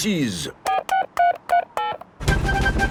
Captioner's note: dialing